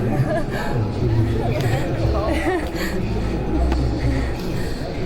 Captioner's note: dancer nervously laughs